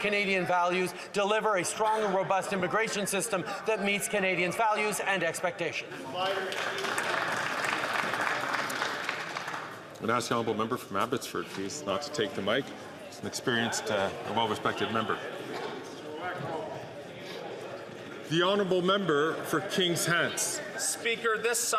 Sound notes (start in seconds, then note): 10.7 some Applause